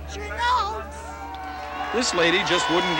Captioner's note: cheering